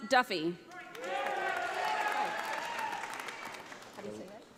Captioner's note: audience applauding